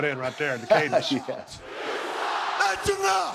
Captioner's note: laugh